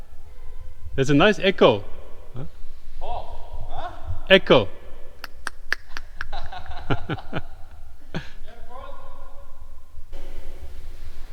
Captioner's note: echo